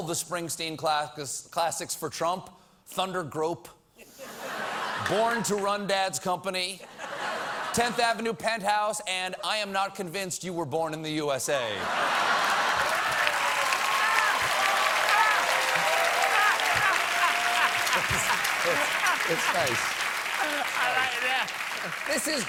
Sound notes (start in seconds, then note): 9.7 applause; 9.7 laughter